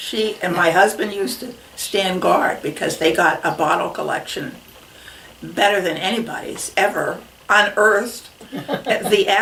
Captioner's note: laughs